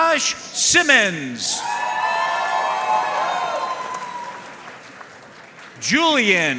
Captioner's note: audience cheering and applauding